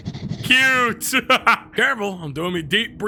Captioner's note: laughs